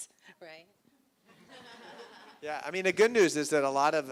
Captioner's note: laughter